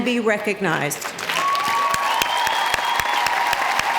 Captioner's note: clapping